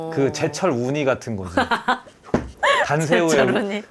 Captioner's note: laughs